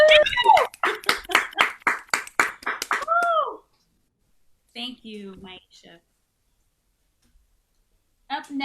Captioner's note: applause